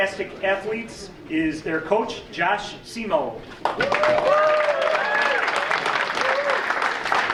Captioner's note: audience cheering